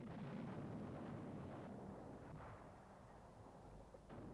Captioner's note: ground exploding